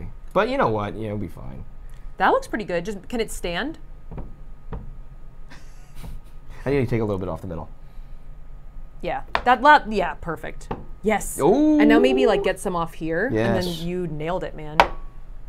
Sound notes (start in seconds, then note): 4.1 soap thuds